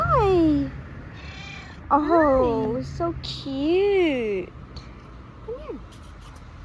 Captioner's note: meow